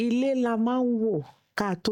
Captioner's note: speaking yoruba